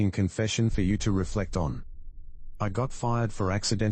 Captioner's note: electrical noise